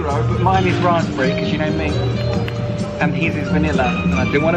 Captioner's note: smacks lips